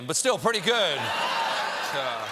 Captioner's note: cheers and applause